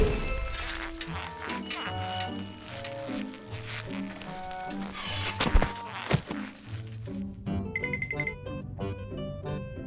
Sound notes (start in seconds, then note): 1.6 bicycle bell rings